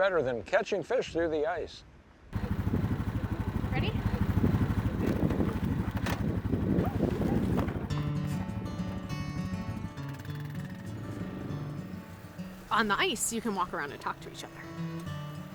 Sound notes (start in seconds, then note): 2.2 motor humming; 8.2 soothing guitar music